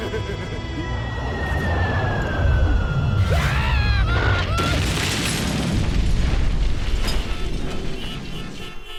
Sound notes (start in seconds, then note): 1.6 screams; 4.1 crash